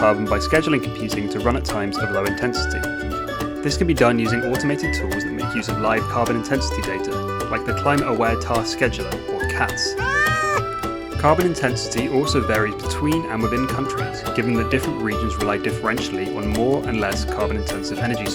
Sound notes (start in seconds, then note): 10.0 meow